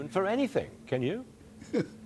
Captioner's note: laughter